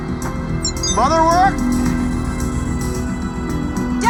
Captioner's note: text message chimes